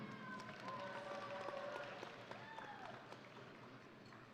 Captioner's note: audience applauding